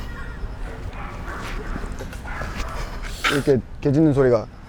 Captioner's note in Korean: 울부짖는 강아지들